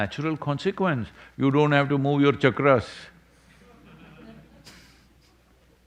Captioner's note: few laugh